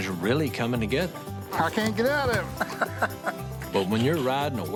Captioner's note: laughs